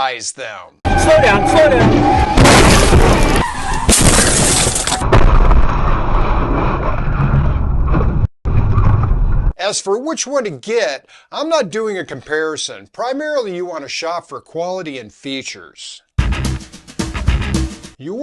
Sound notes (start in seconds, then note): 1.7 crash!!!; 3.5 skid!; 5.0 boom!